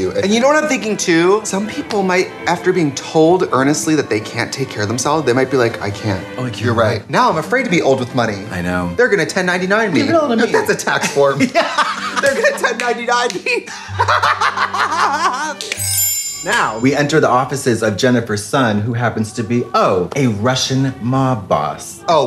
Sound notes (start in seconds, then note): 13.1 laughing; 15.6 chimes